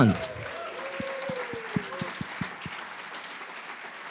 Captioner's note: audience applauds